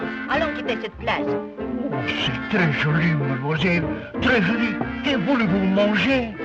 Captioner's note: speaks French